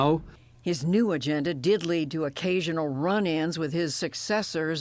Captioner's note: voice-over